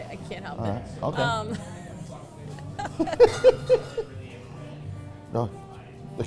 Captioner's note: both laughing